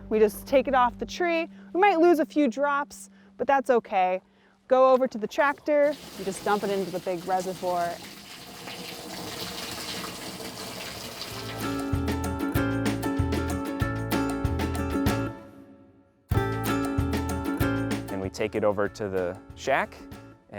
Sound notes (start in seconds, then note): 8.5 liquid filling in; 11.1 background music playing